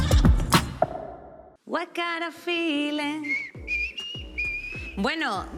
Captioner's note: whistles